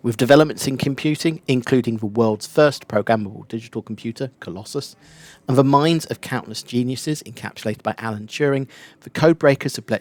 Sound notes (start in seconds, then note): none